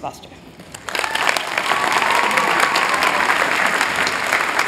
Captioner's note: applause